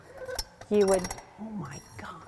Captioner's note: cranking